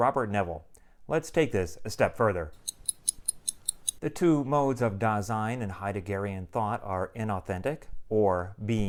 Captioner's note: clock ticking